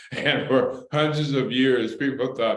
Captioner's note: laughter